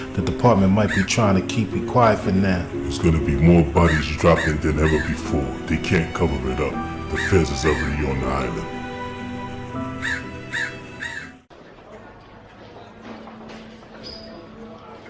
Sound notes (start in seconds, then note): 9.2 pensive music continues; 9.6 bird calls